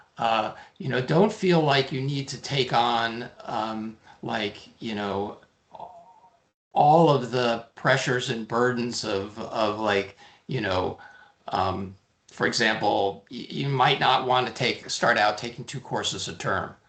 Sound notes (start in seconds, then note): none